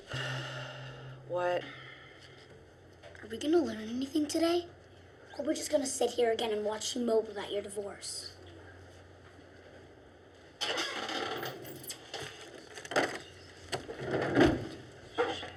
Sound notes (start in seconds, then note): 10.6 chair creaks